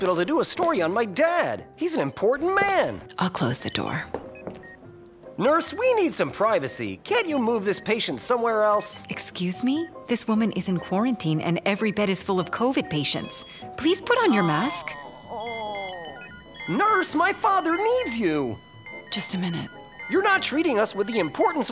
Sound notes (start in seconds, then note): 15.3 flat lining sound